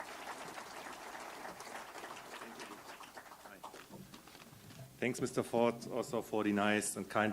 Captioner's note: applause